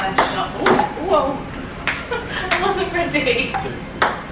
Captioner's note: laughs